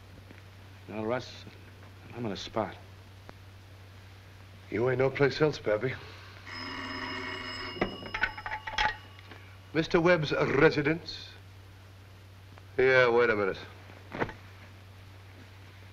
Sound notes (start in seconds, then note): 6.4 phone ringing